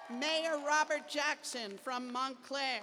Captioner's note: cheers and applause